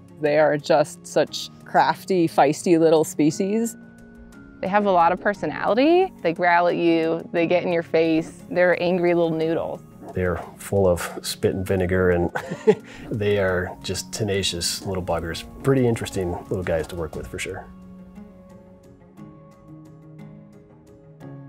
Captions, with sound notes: - They are just such crafty, feisty little species. - They have a lotta personality. They growl at you. They get in your face. They're angry little noodles. - They are full of spit and vinegar and (laughing) they are just tenacious little buggers. Pretty interesting little guys to work with, for sure. (light music continues)